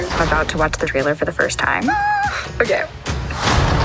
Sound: squeals

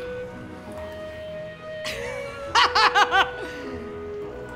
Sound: laughs

